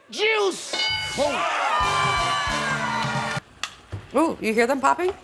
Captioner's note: crowd cheering; bell dings